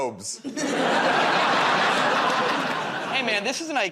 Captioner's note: laughter